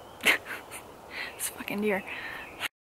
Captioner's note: laughs